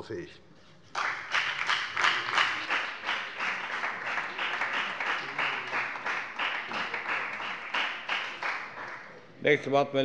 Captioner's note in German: Beifall bei der FDP und bei Abgeordneten der SPD